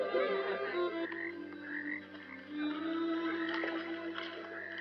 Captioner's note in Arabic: نعيق الضفادع